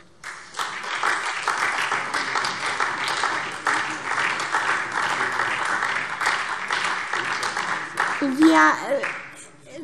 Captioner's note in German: Beifall SPD und DIE LINKE